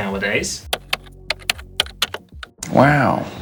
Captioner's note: keyboard clicking